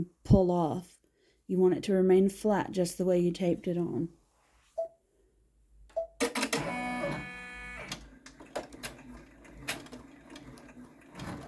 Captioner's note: boop boop machine noises